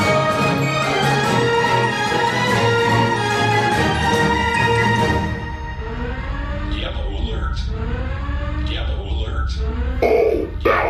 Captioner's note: alarm blaring: yellow alert, yellow alert